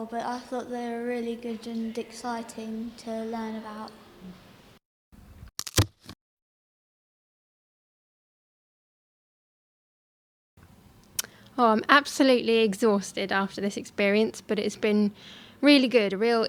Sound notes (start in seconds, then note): 5.6 crunch